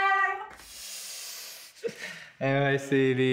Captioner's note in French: rire